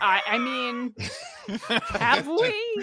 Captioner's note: laughs